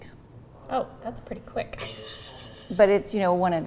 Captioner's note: chuckles